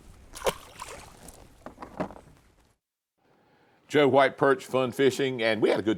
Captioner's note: water splashing